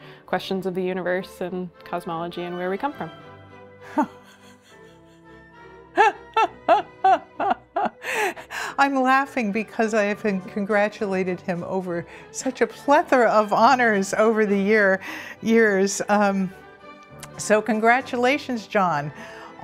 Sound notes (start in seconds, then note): 4.2 laughs